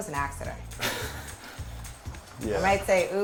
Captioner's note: laughter